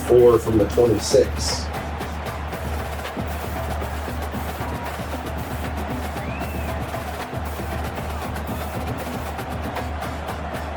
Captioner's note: crowd Noises